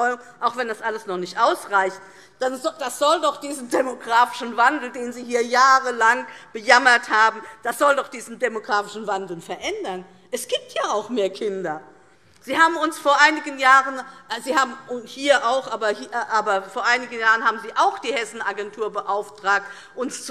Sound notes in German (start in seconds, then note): none